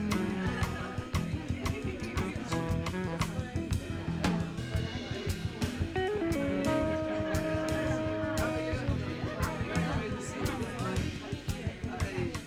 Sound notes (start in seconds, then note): 0.1 laughter; 3.1 background chatter